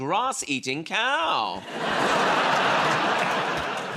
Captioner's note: laughter